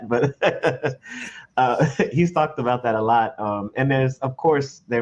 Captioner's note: laughs